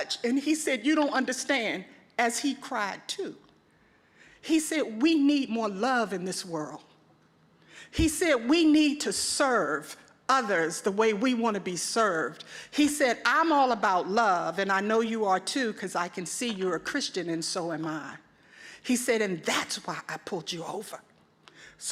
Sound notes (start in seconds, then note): none